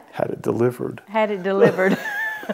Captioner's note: laughing